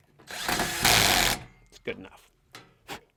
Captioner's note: power drill whirring